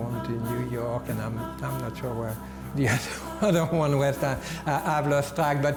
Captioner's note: chuckles